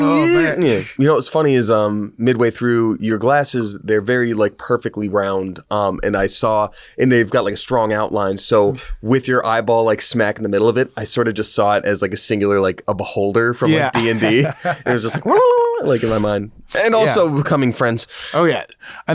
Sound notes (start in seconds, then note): 13.6 laughs; 15.8 chiming